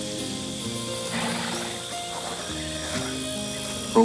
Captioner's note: cicadas chirp; horse snorts